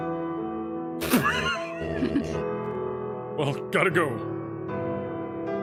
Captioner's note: laugh